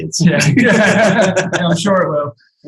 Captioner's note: laughs